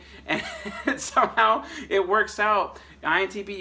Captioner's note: laughs